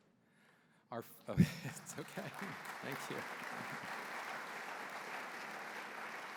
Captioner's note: applause